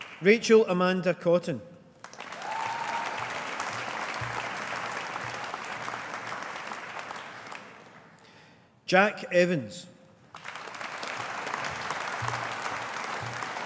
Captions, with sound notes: Rachel Amanda Cotton. (AUDIENCE APPLAUDING) Jack Evans. (AUDIENCE APPLAUDING)